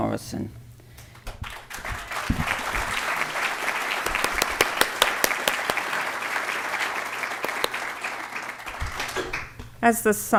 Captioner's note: applause